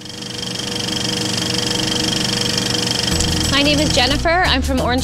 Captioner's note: film reel clacking